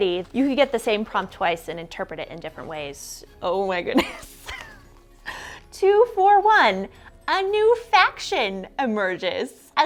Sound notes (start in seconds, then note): 4.4 laughs